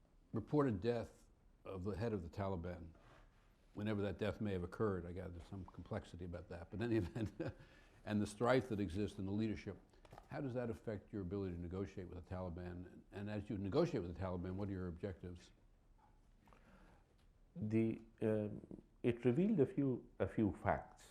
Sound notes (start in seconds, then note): 6.7 chuckles